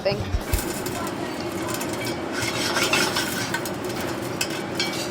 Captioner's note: popcorn popping